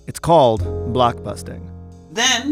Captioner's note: soundbite of archived recording